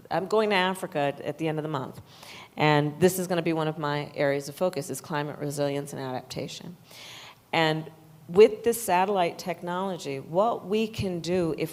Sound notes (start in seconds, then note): none